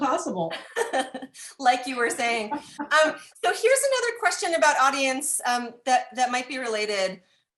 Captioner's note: laughing